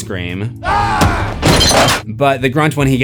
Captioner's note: screams